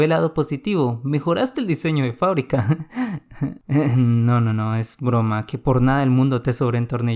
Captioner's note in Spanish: Risa sarcástica